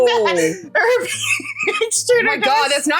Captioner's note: cat gibberish